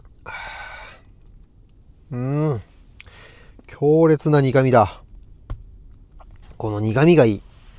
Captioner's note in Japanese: ため息